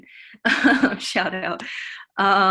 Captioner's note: giggles